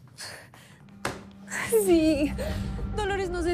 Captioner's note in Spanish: Sollozos